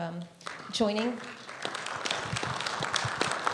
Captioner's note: audience applauding